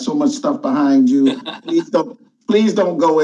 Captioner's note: laughs